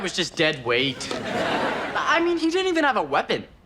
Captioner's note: audience laughs